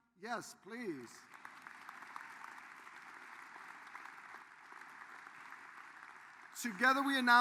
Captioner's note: applause